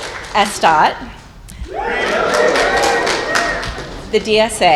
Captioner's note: cheers and applause; cheers and applause